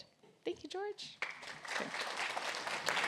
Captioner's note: applause